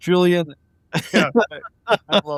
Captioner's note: laughing